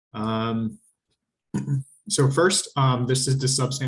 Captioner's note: clears throat